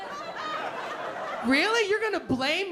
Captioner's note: laughter